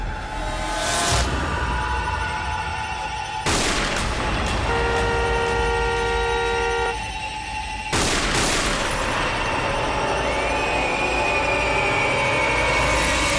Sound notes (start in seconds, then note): 3.4 gunshot; 7.9 gunshot